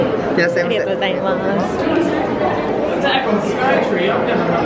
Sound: speaking in Japanese

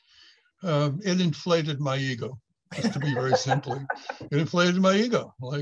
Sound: laughs

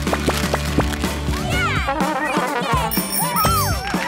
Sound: cheering

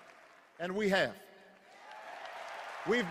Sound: cheers and applause

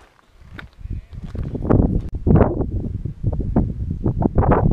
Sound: wind gusts

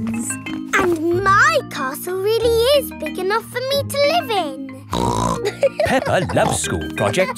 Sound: snorts and laughs

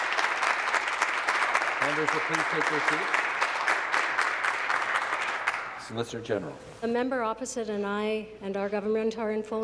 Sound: applause

